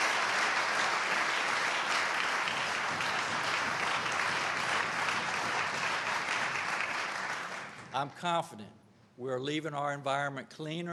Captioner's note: applause